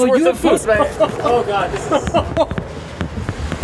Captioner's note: laughter